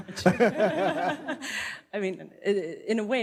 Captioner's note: and panel laughing